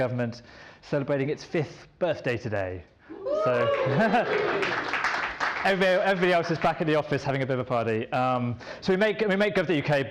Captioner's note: applause